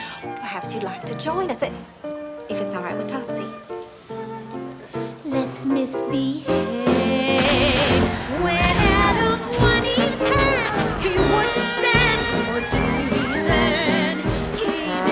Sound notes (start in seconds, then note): 7.5 fireworks exploding